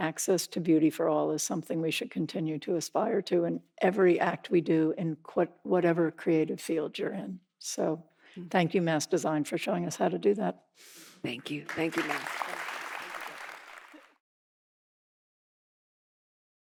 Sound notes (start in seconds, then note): 11.4 audience applauding